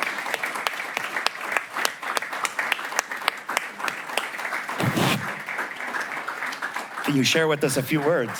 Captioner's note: applause